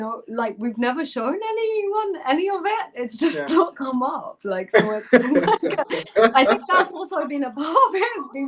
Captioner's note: laughter